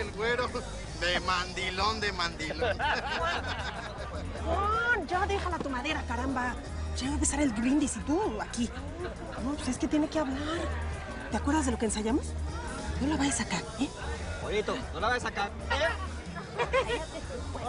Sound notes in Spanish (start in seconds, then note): 2.4 Risas